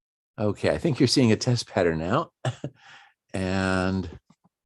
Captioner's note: chuckles